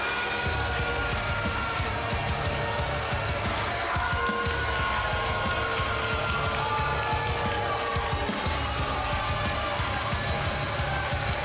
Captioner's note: cheers & boos